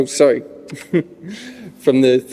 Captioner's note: he chuckles